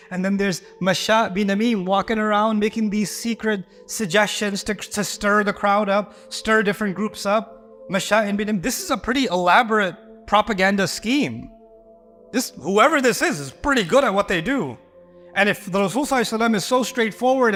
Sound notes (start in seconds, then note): 8.0 Arabic